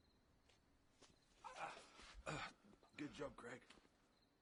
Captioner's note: pained grunting